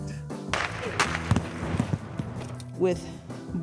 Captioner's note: gun fires